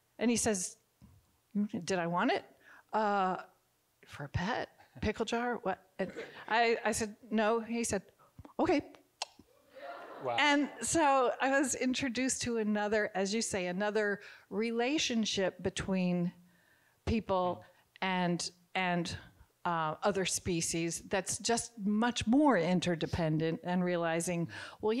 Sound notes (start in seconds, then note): 9.2 teeth chomps